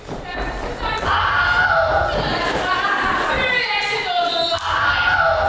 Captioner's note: Wilhelm Scream